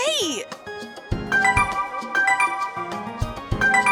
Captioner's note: cell phone notification sounds